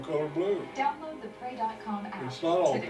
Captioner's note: background advertisement playing